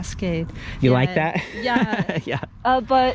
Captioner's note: laughs